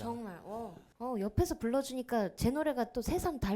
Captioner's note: laughs